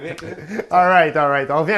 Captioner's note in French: rires